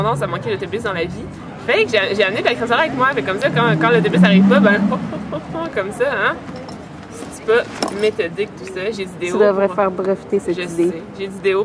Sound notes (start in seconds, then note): 4.5 huhuhu